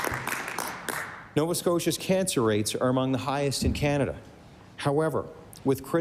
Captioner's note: applause